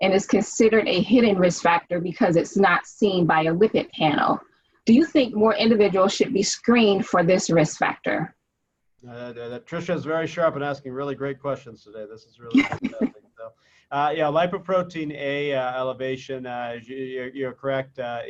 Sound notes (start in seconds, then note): 13.0 faintly speaking